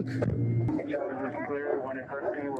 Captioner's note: radio chatter